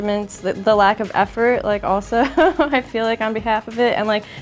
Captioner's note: laughs